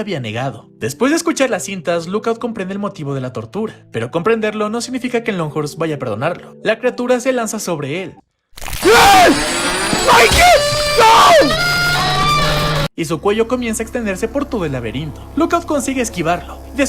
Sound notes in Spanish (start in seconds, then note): 12.3 grito